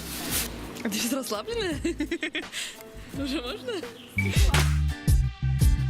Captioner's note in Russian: смеётся